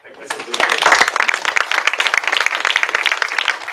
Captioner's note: applause